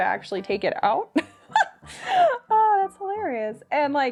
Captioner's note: laughing